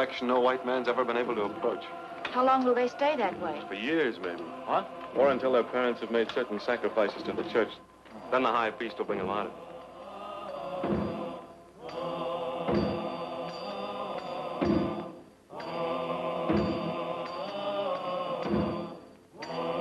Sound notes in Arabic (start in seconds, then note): 10.2 الناس يهتفون; 10.2 قرع الطبول